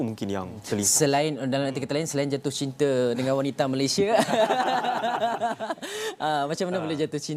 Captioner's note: laugh